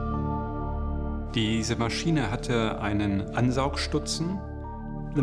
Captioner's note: non-english speech